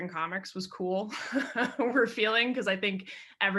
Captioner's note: laughing